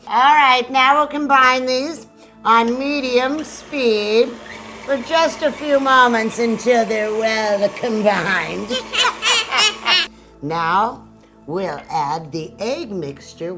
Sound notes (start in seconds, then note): 8.9 both laughing